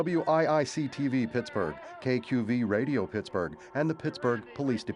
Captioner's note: indistinct shouting